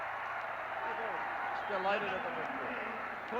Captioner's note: cheers and applause